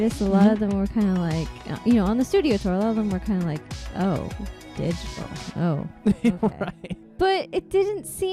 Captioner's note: disapprovingly; laughing